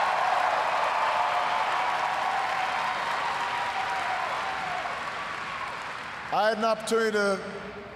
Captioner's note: cheers, applause